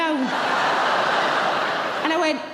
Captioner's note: laughing